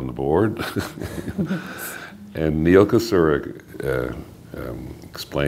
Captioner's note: laughter